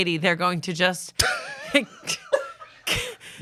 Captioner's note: laughs